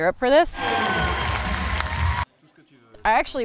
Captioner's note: audience clapping